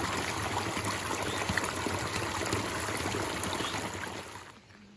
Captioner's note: tiny waterfall